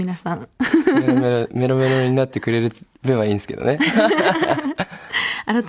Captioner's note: laughs; laughs